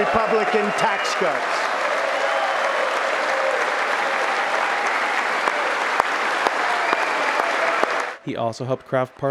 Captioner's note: applause